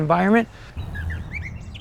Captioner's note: birds chirping